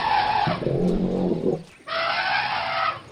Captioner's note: roaring